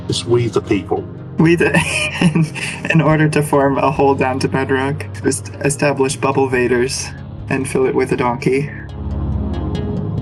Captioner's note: human laughter noises